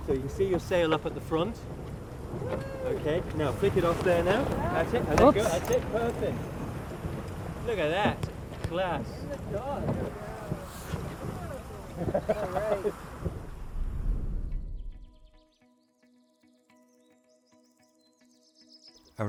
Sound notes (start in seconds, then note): 11.2 laughing; 14.4 light-hearted music